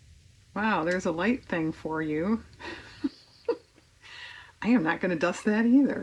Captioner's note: laughs